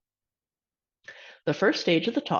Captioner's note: inhales